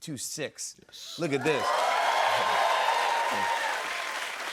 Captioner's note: cheers and applause